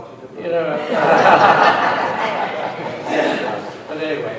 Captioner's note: laughter